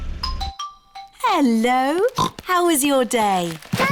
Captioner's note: oinks